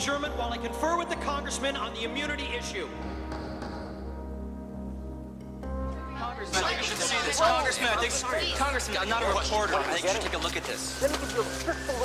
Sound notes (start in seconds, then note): 3.3 gavel banging; 6.1 all chattering